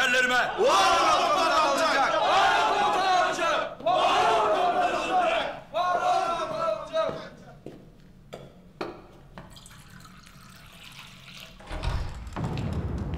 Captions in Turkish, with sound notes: (Hep bir ağızdan) Var ol Komutan Alıncak! (Hep bir ağızdan) Var ol Komutan Alıncak! (Hep bir ağızdan) Var ol Komutan Alıncak! (Kapı açıldı)